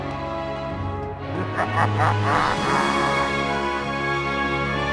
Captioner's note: evil laugh